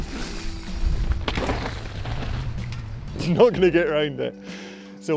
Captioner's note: ground rumbling